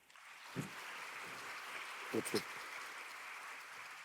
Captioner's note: clapping